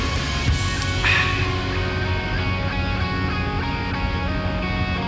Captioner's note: sighing